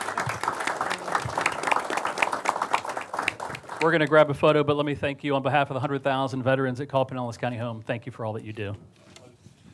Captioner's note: applause